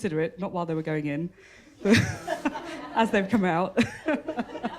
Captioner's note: laughter